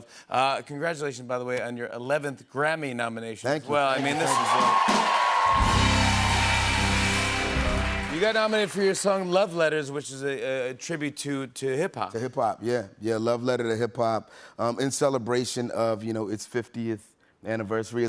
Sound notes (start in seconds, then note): 3.8 cheers and applause